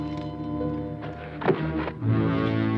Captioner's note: thud